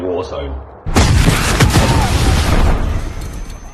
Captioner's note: commotion